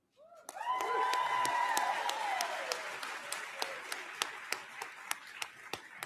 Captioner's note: applause